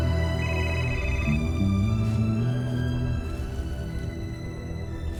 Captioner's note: phone ringing